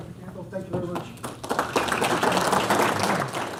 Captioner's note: audience Applause